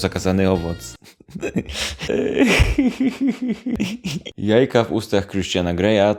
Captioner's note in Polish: zażenowany chichot